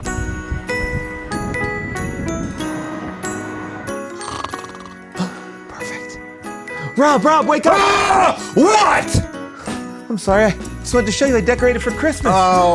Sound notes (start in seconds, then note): 0.1 gentle festive music; 4.1 snoring